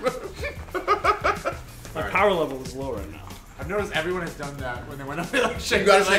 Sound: laugh

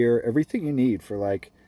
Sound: none

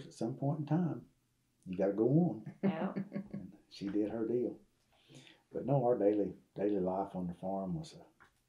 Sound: laughter

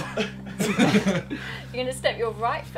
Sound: group laughing

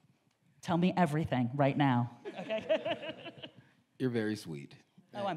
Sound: laughs

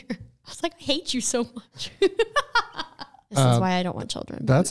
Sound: laughs

